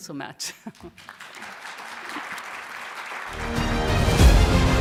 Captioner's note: audience clapping; upbeat music